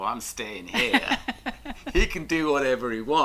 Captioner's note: laughs